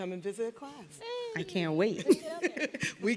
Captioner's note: people laughing